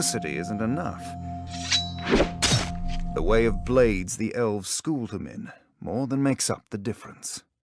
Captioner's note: knife scraping